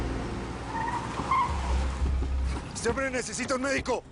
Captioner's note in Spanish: Chirrido de gomas